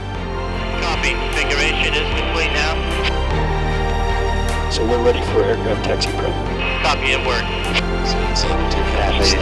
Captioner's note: radio chatter; Radio: NASA 872